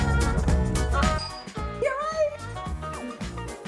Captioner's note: doorbell rings